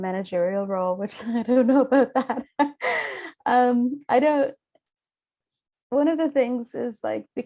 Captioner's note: chuckles